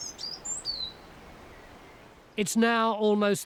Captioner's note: bird sings